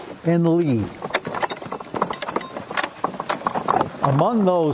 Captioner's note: wagon rustling